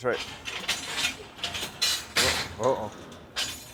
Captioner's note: clanging